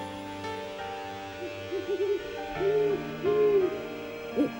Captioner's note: owl hoots